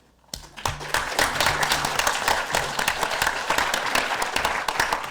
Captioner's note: audience applause